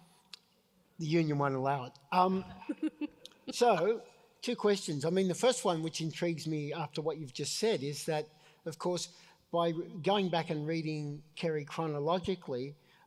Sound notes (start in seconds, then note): 2.5 laughs